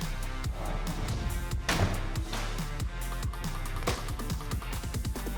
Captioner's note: chopping sound